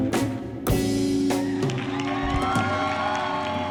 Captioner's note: applause